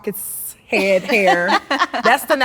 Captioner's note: laughing